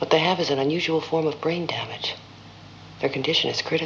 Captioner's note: none